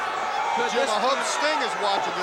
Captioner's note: crowd chatter